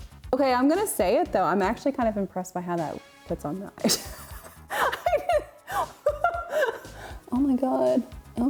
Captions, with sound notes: Okay, I'm gonna say it though. I'm actually kind of impressed by how that puts on the eyes. (laughs) Oh my God.